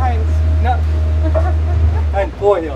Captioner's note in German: Lachen